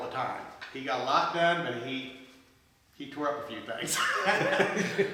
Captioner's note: laughs